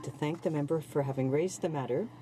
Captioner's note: speaking French